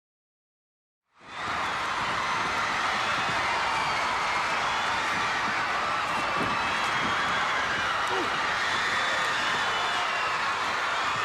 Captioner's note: crowd cheering